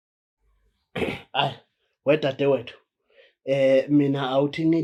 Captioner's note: clears throat